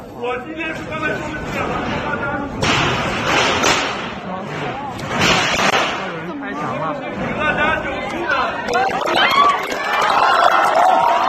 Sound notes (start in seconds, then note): 5.0 interrupted by the sound of the wall being demolished; 8.6 students applaud